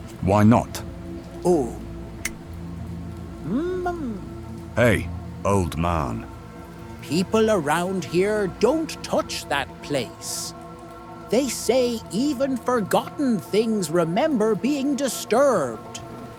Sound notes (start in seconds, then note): 3.3 mhmmm